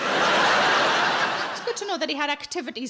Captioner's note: audience laughs